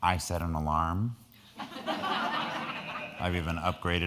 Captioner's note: crowd laughing